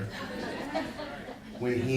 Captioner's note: audience laughing